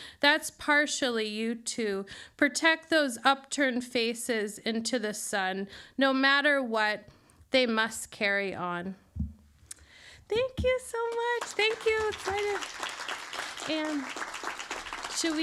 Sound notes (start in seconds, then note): 11.1 audience applauds